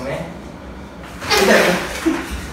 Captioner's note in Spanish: Silla arrastrándose; Pasos corriendo